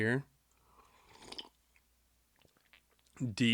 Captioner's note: slurps